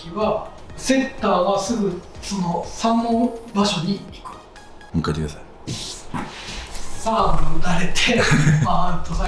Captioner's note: laughter